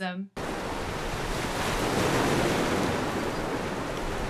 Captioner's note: harsh storm sounds